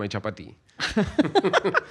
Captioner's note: laughs